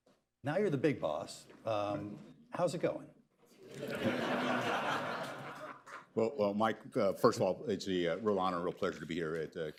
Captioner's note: laughter